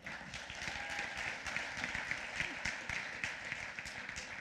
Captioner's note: applause